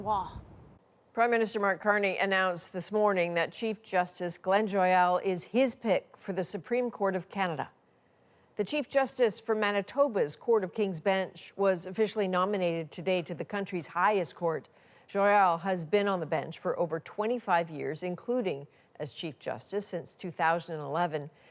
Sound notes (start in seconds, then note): none